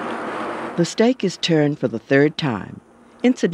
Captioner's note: voiceover